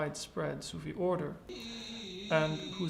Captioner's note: chanting in foreign language